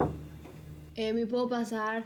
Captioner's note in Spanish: toques la puerta